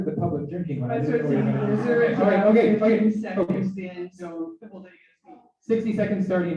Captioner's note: laughter